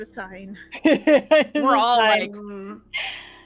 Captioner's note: laughing